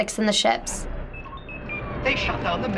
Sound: R2-D2 beeps

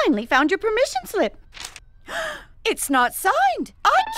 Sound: gasps

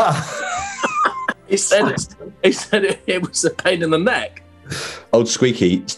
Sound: laughing

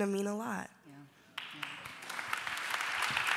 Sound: applause

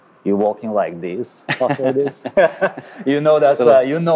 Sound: laughing

